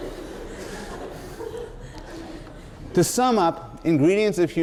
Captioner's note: laughter